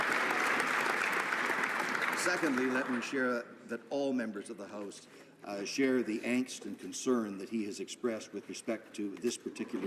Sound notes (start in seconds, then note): 3.0 applause